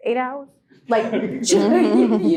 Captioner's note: group laughing